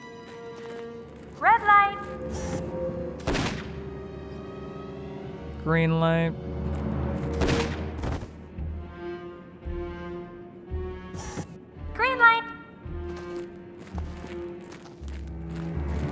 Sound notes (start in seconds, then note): 3.2 gunshot; 7.4 gunshot